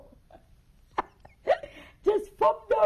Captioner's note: laughs